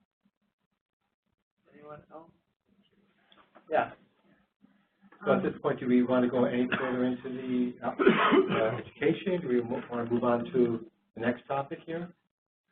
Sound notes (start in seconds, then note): 6.5 coughing